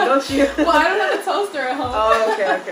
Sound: laughs

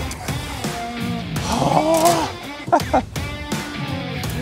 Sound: groan

